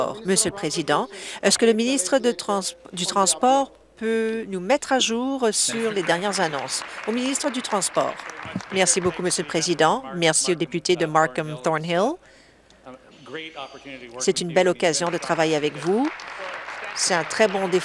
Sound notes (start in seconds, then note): 8.6 applause